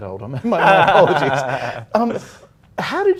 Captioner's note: laughing